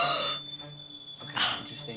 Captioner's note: gasping